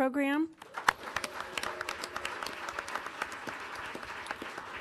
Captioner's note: audience applauding